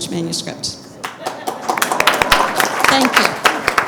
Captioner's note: applause